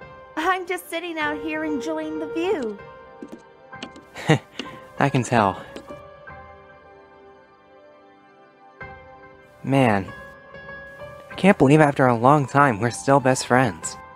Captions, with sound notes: I'm just sitting out here enjoying the view. (CHUCKLE) I can tell. Man... I can't believe after a long time we're still best friends.